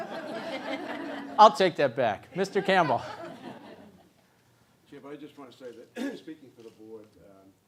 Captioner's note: laugh; cough